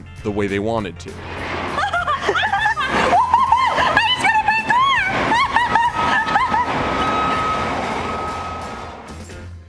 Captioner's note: hysterical laughter